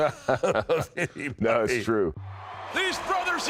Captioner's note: chuckles